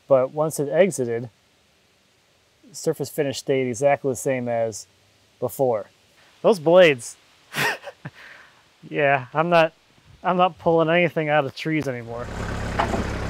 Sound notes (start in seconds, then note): 7.5 laughs; 12.0 engine runs